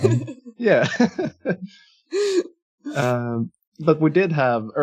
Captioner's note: laughing